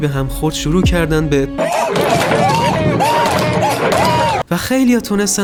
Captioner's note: monke noises